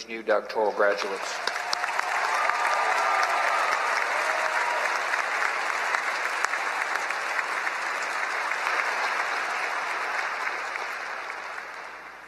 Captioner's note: applause